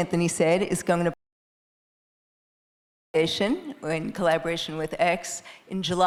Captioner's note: faintly speaking